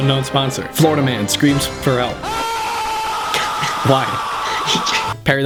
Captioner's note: screaming